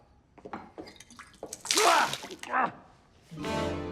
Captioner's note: splash